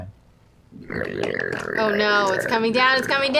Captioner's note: gurgling